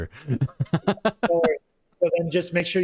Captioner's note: laughter